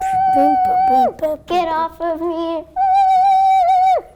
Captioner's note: shrieks